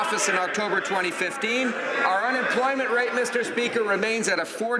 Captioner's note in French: voix de l'interprte